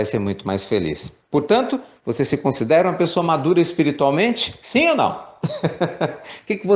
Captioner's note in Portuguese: risos